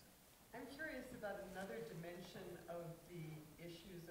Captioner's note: voiceover